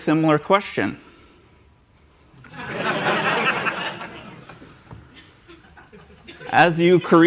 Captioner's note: laughter